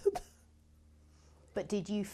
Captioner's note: laughs